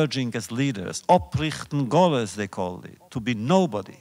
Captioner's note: Yiddish